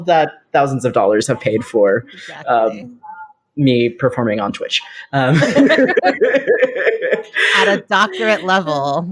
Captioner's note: all laugh